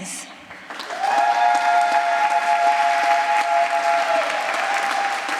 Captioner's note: applause